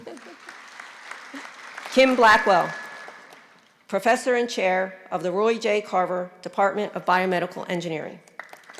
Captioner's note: applause